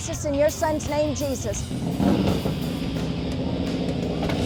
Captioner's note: bike rumbling